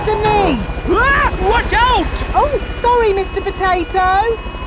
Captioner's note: screams